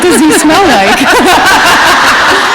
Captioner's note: laughter